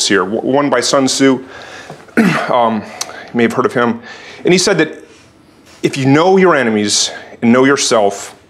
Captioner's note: cough